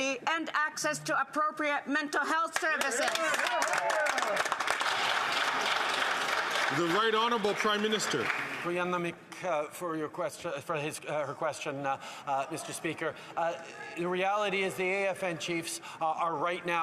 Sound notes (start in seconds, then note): 9.0 applause